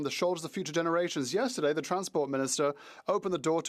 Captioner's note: speaking French